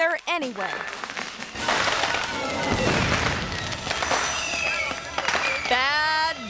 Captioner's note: fireworks popping; tense music